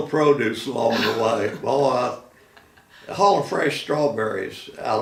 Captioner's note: laughing